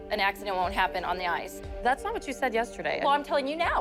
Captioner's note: none